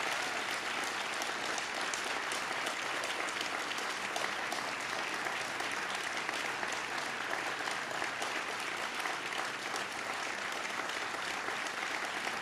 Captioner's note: cheers and applause